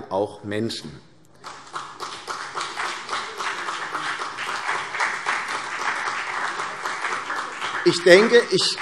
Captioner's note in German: Beifall CDU und BÜNDNIS 90/DIE GRÜNEN